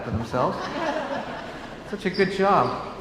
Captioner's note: laughs